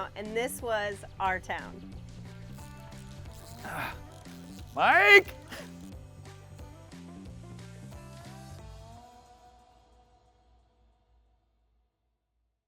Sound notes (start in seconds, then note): 2.6 reel clicking; 4.8 cheerful twangy music; 4.8 groaning